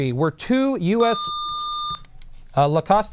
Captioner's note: buzzer